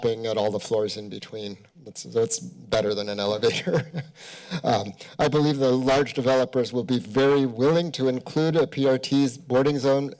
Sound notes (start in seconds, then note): 3.4 chuckles